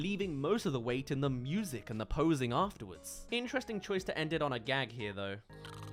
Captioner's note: snores